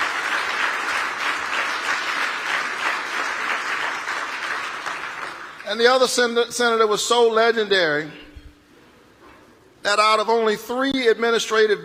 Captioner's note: applause